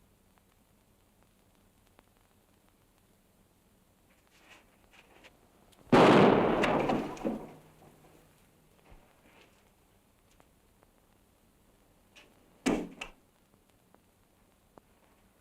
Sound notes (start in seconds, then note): 5.9 gun fires; 12.6 gun clatters